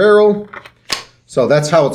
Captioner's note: equipment snaps